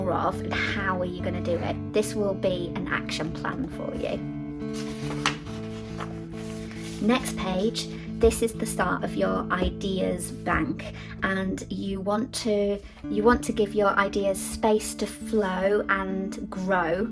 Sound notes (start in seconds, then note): 4.6 paper rustling